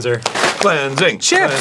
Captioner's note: arin, chanting